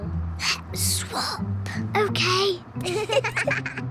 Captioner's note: whispering; both giggle